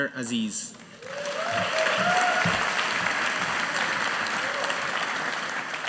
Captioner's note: audience applauding